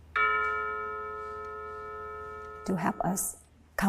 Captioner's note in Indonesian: Suara dentang jam